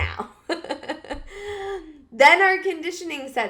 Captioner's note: laughs